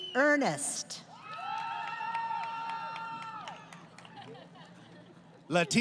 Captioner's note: crowd Cheering